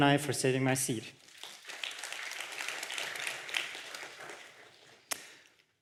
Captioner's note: applause